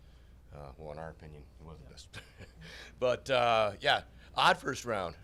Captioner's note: chuckles